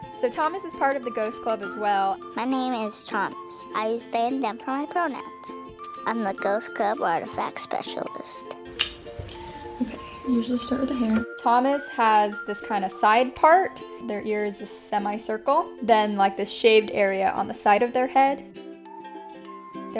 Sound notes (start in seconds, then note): 8.7 marker lid clicks; 18.8 upbeat playful music